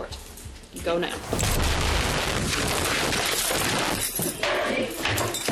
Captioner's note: loud scuffling